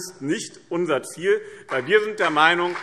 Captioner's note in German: Beifall BÜNDNIS 90/DIE GRÜNEN und CDU